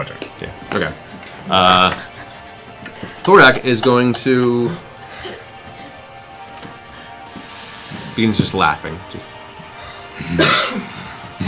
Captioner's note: deep laugh